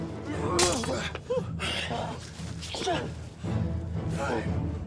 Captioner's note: Thor grunts; swords thuds; Orn grunts; thrilling music continues